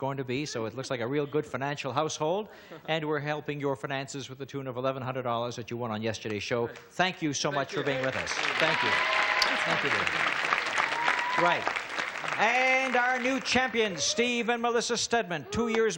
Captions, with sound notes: and the other one is going to be, so it looks like a real good financial household and we're helping your finances with a tune of $1,100 that you won on yesterday's show. -Right. -Thank you so much for being with us. -Thank you. Thank you, thank you dear. -(applause) -Right, and our new champions, Steve and Melissa Stedman.